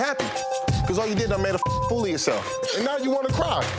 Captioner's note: beep